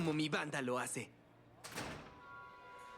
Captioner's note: door closes